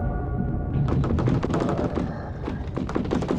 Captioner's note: rattling; scratching